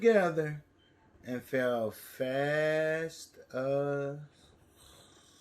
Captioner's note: snores